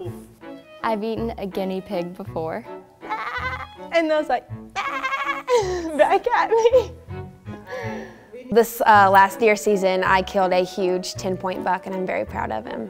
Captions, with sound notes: I've eaten a guinea pig before. Baaaaahhh. and then it was like baaahhhh (laughs) back at me. This last deer season I killed a huge ten point buck and I'm very proud of him.